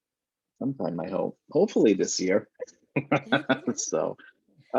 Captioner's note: both laughing